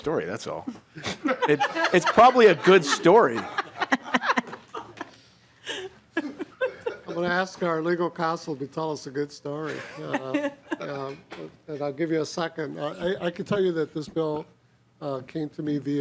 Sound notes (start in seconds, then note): 11.7 laughing